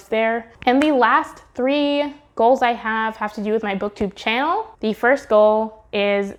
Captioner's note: clap sound